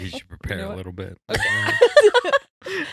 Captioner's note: laughing